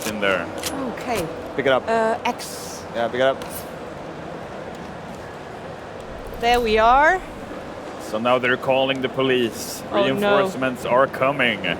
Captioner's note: gunfire